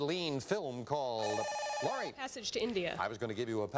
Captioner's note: buzzer